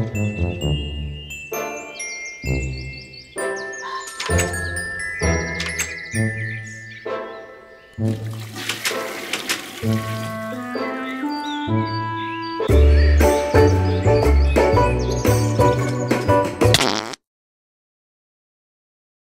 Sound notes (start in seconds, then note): 8.0 toilet flushing; 16.7 poop sound; 17.1 deafening Silence